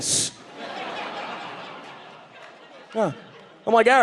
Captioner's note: audience laughing